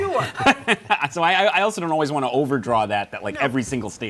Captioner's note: laughs